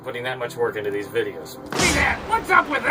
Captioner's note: boom